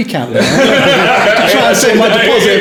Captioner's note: laughing